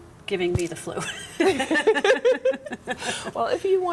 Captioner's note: laughter